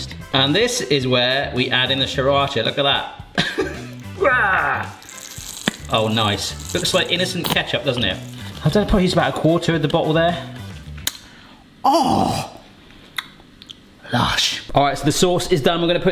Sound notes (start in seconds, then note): 3.3 laughing; 11.8 groans